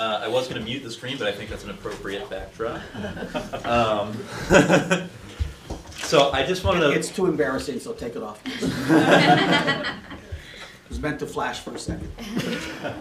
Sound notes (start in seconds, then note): 4.2 laughter; 8.5 laughter